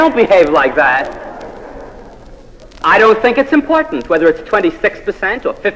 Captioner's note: laugh